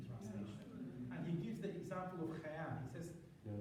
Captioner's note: non-english